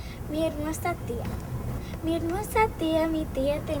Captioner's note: speaking in spanish